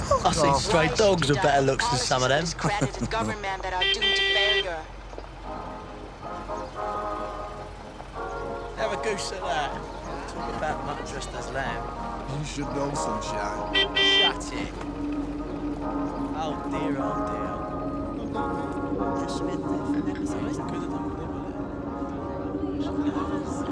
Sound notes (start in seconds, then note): 5.5 horn beeps; 6.4 swing music on radio; 13.7 horn beeps; 18.2 voices echo